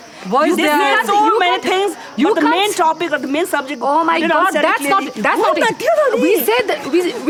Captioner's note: arguing